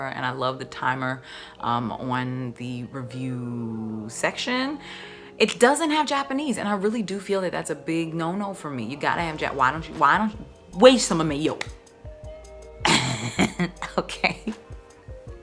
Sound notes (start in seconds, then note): 10.8 in foreign language; 12.8 laughing